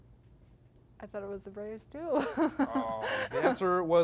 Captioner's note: laughs